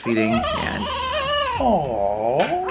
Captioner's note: crying